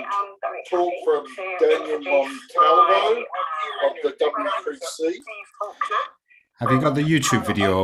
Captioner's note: voices echoing